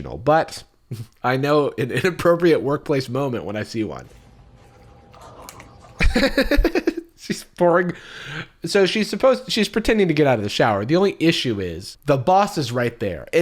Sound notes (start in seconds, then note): 4.2 white noise; 5.2 laughs